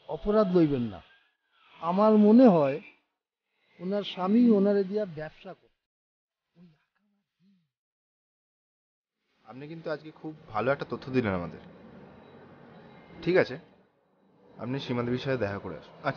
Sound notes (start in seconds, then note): 6.6 voice fades